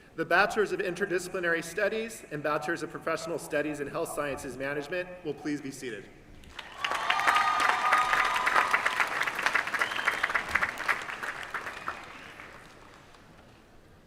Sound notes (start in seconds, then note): 6.4 applause